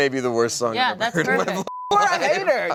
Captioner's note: beep